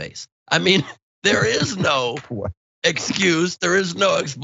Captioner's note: laugh